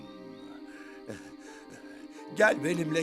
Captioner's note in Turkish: Nefes sesleri